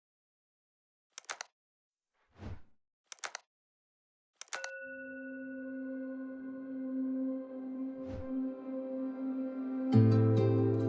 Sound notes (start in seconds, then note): 1.2 keyboard clicking; 2.7 gentle music